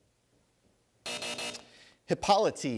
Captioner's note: buzzer